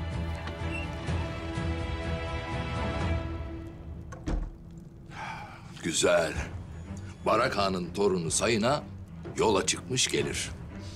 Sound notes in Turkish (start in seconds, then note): 4.1 Kapı kapanma sesi; 5.1 Nefes veriyor